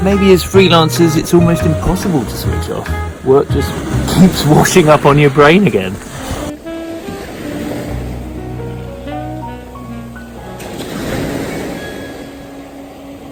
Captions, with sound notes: Maybe as freelancers, it's almost impossible to switch off. Work just keeps washing up on your brain again. (gentle music) (waves crashing)